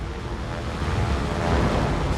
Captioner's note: propellers roaring